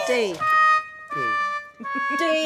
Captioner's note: sad trombone